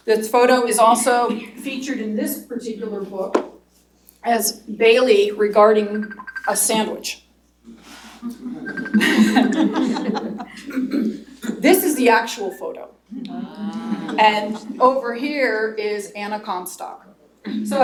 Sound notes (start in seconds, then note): 6.9 phone ringing; 8.2 laughter